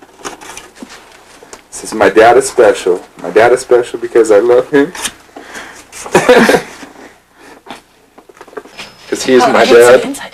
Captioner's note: laughter